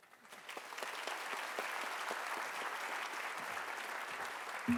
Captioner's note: audience applauding